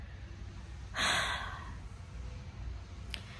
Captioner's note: sighs again